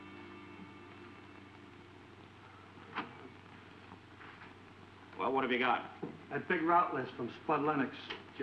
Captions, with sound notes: (door unlatching) - Well, what have you got? - That big route list from Spud Lennox.